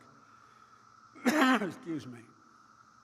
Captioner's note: coughs